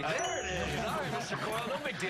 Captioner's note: laughter